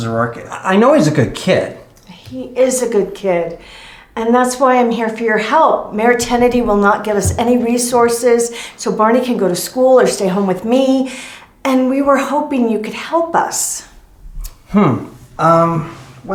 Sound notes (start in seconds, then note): none